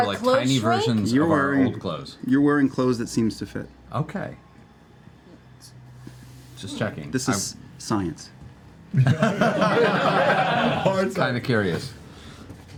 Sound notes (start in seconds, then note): 8.9 laughter